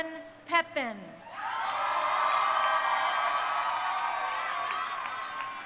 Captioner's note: crowd cheering